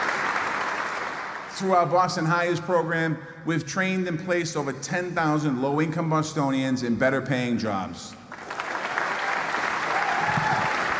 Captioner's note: applause